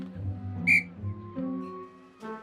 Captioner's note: tweet